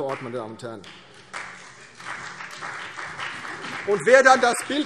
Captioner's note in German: Beifall CDU und BÜNDNIS 90/DIE GRÜNEN